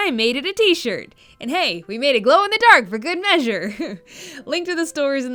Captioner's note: laughs